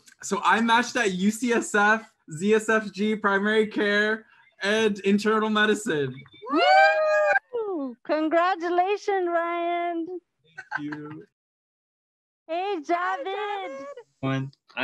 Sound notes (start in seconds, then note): 6.4 cheering